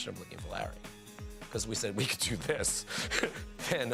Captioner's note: laugh